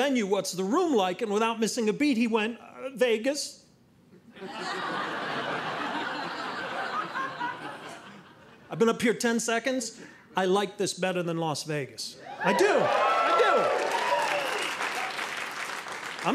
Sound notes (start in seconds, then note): 4.3 audience laughing; 12.7 audience clapping